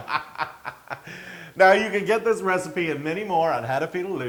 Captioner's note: laugh